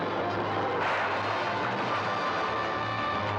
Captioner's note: structure crashing down; dramatic music